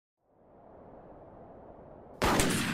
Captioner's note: wind; gunshot, breaking glass, gunshot